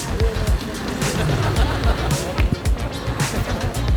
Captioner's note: laughing